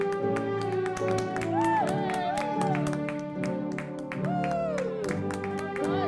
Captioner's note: attendants clapping and applauding